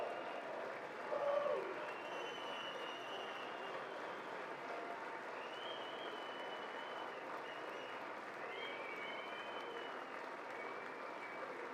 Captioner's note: applause